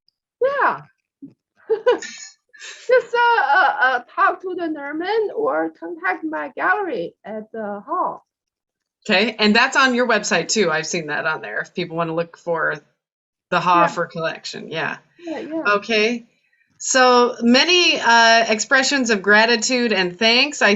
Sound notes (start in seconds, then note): 1.7 chuckles